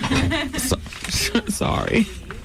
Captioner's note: laughter